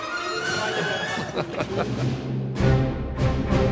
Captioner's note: chuckling